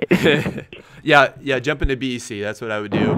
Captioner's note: laughs